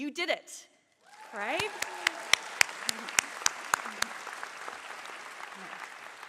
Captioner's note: applause